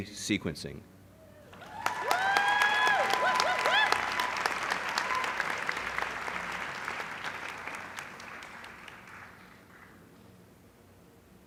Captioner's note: applause